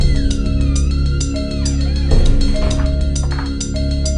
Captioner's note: door squeaking